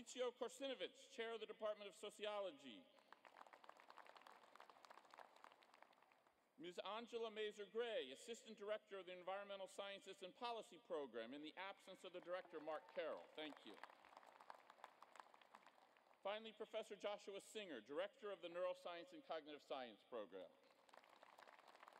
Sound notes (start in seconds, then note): 2.9 applause; 20.6 applause